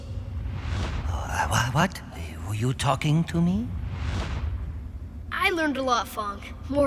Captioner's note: stammers